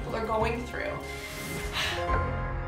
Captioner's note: sighs; dramatic bell music